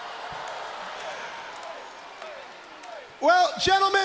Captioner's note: crowd cheering